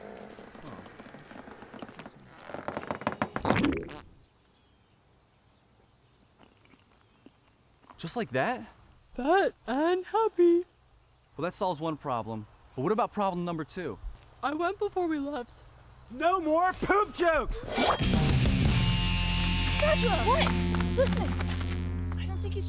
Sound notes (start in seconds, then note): 17.8 metal swish